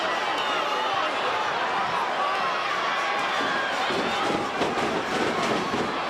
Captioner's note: crowd chattering; stage clattering